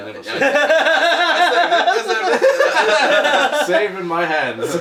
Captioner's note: laughing